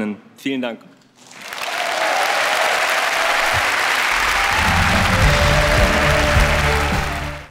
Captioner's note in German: Applaus